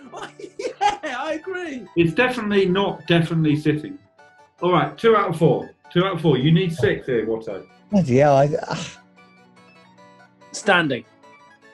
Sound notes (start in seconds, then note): 0.0 laughing; 8.4 sighs